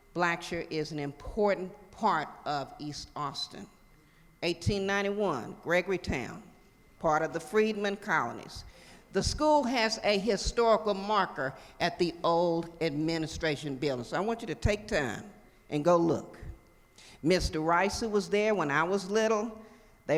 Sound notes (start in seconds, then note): none